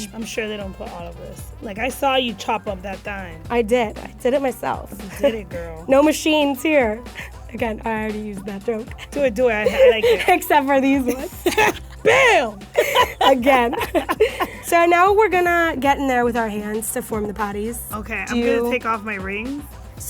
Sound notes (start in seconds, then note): 12.3 yelling; 13.2 both laugh